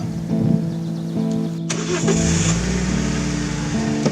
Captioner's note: car engine starting